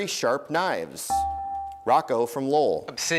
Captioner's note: dinging